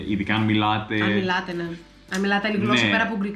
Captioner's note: in different language